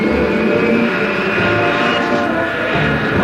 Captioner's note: jet engines revving up